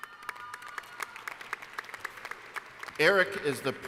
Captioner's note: applause